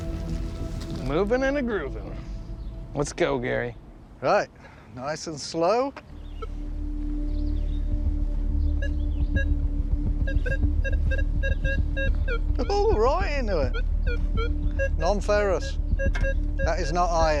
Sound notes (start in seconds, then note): 10.0 beeping